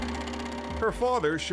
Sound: camera projector whirring

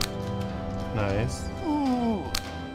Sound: moaning

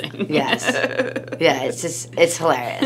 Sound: laughs

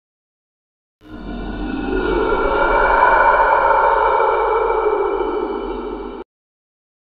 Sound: sound of scary monster

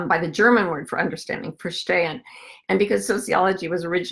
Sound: foreign language

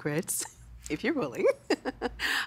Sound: giggling

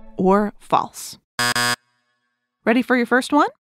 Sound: buzzer

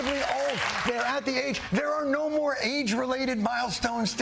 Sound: laughter and applause

